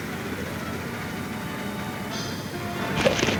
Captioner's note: pensive orchestra music; cracking